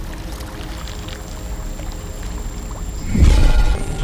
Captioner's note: whirring; distorted sounds